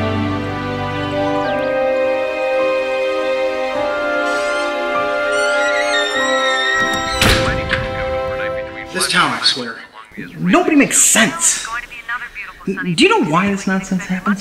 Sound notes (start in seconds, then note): 7.5 television chattering